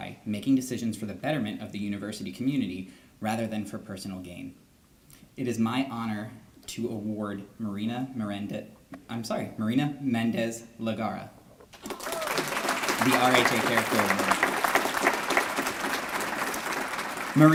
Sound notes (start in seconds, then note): 11.7 applause